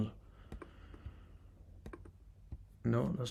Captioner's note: mouse clicking sounds